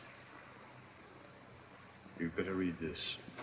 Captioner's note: none